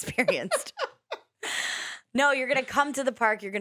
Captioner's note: laughs